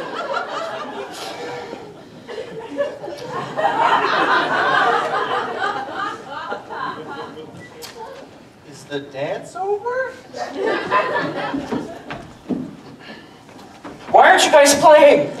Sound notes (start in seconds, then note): 3.4 audience laughter